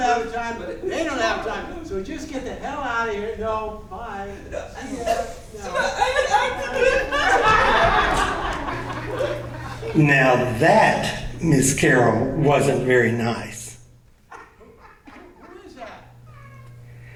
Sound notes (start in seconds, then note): 4.4 audience laughing; 9.7 voiceover